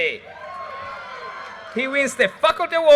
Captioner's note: audience cheers and applause